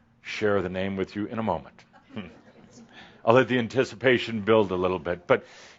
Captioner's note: a few chuckles